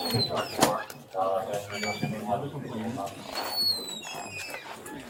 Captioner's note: radio chatter